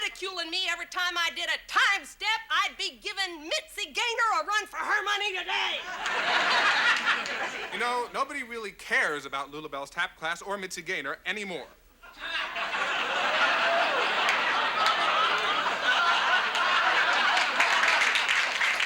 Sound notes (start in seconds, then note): 5.7 audience laughs; 12.3 audience laughs